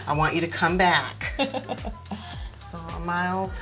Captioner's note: chuckling